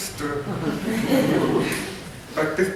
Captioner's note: laughter